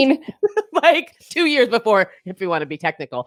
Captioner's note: chuckling